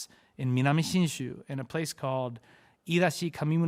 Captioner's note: speaks Japanese